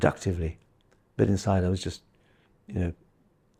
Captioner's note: gasps